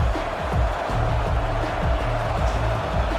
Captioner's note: crowd Noises